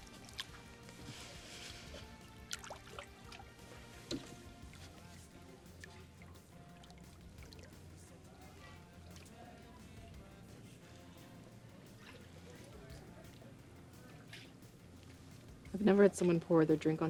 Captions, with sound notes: (water splashes) (upbeat music continues) - I've never had someone pour their drink